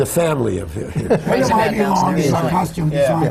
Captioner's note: laughter